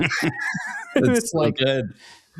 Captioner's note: laughing